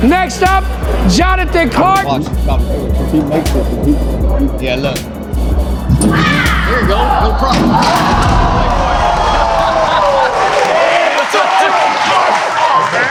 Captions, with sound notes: Next up Jonathan Clark. (spectators chattering) (spectators applauding)